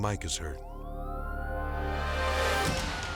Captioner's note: siren blaring; uneasy music